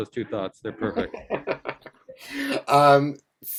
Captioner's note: laughs